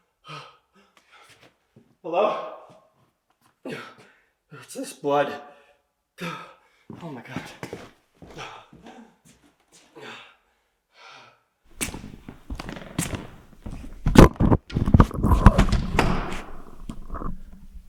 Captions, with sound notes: Hello? What's this blood? Oh my god. (panting) (camera thudding)